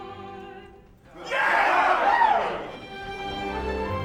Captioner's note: men cheer